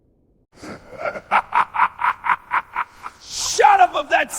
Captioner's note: laughs